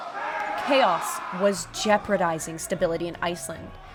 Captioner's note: yelling, swords clashing